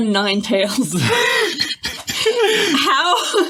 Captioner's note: laughing